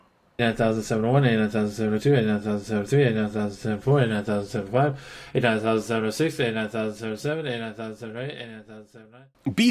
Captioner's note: Jimmy counting in a barely coherent slur